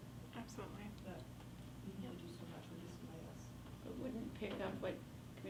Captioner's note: faintly speaking